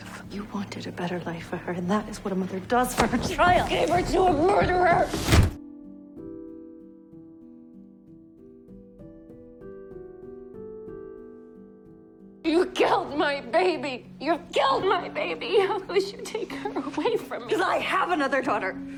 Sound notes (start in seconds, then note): 5.1 June slams into the wall; 12.8 voiceover